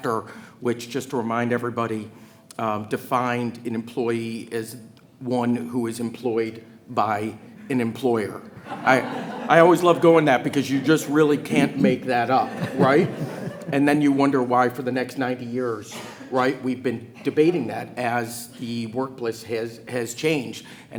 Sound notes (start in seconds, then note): 8.7 attendees laughing; 12.7 attendees laughing